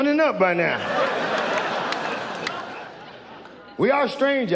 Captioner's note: audience laughs